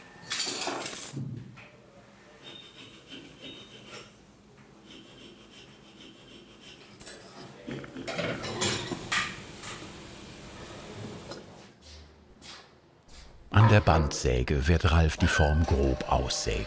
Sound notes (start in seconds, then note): 2.4 filing in the background